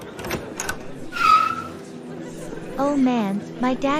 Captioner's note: George's Car Passing